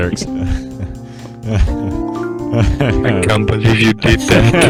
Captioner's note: laughing